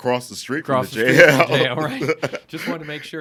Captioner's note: laughing